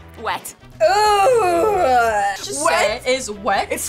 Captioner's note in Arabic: كلاهما يئن